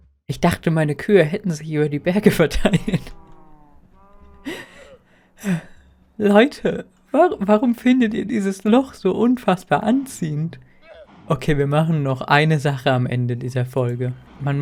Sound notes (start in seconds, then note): 4.0 disappointed sigh